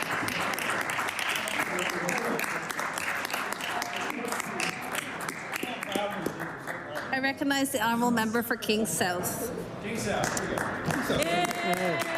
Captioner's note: applause